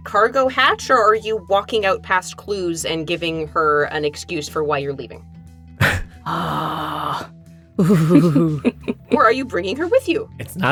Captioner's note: sighs